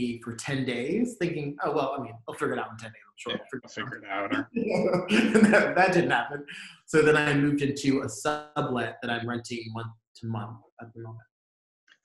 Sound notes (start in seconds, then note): 3.2 murmurs; 4.9 laughs